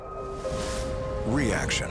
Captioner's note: wind whooshes